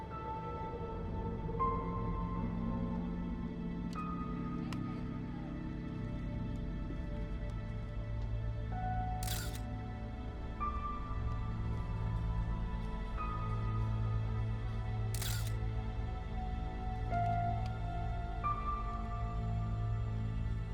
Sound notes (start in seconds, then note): 1.1 suspenseful music; 9.2 camera shutter clicks; 11.4 suspenseful music; 15.1 camera shutter clicks; 17.5 suspenseful music